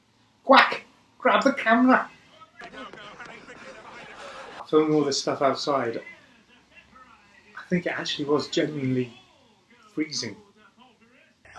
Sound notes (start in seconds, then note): 2.2 shouts